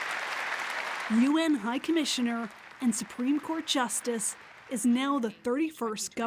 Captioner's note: applause